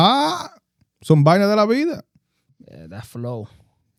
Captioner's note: speaking In Foreign Language